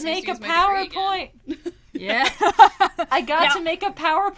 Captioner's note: laughs